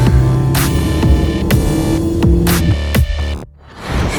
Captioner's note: gasping